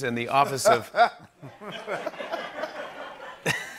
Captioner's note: laughs